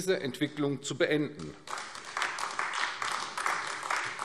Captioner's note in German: Beifall AfD